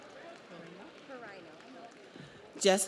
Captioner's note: audience cheers; audience applauds